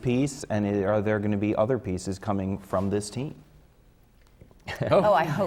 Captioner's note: laughter from the panel